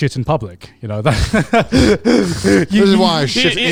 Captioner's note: laughs